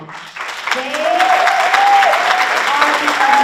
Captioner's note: audience applauds and cheers